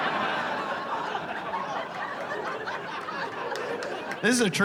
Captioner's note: hilarious laughter